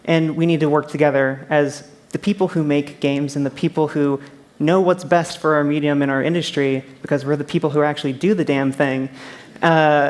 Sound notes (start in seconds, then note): none